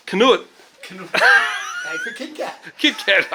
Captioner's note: laughs